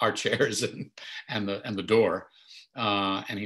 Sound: chuckles

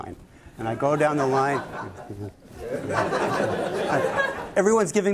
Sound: laughter

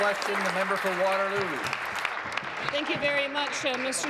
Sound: applause

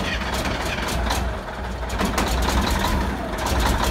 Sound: engine finally starts

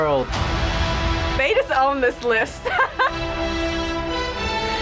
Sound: laughs

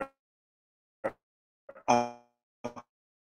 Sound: Zoom sound distorted

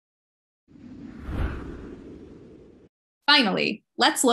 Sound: light Woosh

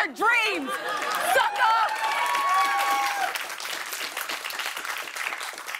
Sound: cheering and applause

